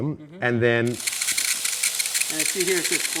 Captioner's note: machine noise